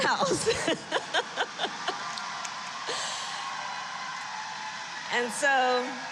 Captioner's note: laughs; applause